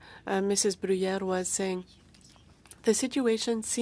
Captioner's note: speaking French